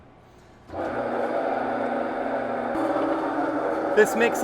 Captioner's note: mixer whirring